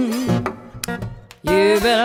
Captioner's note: switch clicks